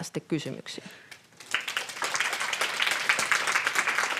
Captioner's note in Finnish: Yleisö antaa aplodit